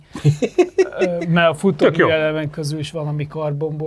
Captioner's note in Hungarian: nevetés